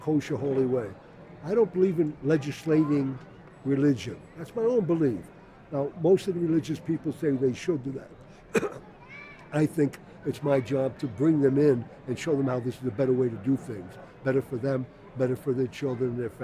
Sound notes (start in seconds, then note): 8.5 coughs